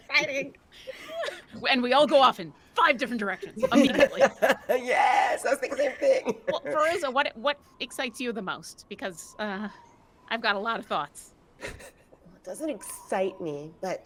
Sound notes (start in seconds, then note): 0.0 people laughing; 3.6 person laughing